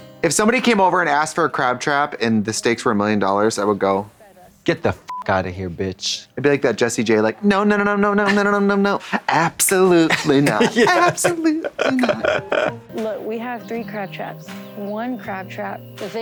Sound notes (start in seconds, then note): 5.0 beep; 10.1 playful music; 10.6 chortles